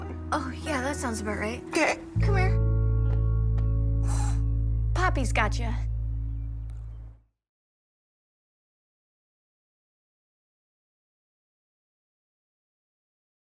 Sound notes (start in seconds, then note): 3.5 crying